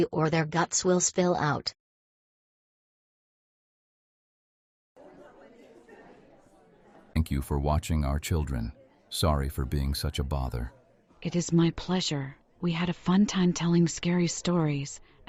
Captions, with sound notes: or their guts will spill out. (people chattering) Thank you for watching our children. Sorry for being such a bother. It is my pleasure. We had a fun time telling scary stories,